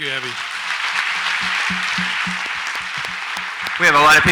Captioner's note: audience applauds